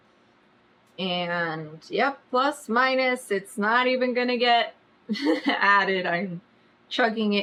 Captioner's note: laughs